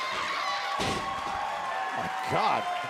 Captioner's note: cheers and applause